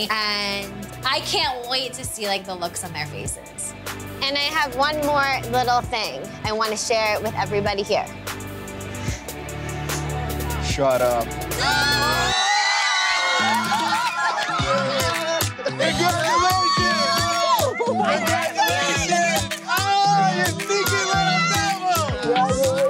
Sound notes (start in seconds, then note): 8.5 calm music; 12.3 people cheering; 14.1 upbeat music; 20.0 people cheering